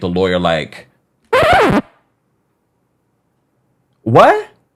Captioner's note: record needle scratching